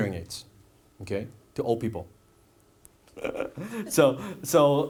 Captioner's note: laughs